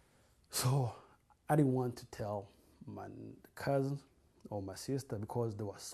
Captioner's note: sighs